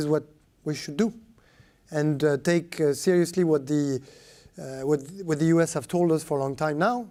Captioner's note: speaking french